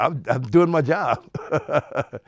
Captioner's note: laughs